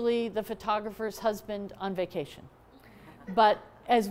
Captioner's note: laughter